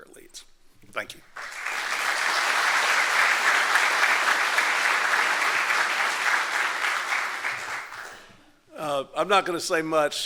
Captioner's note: applause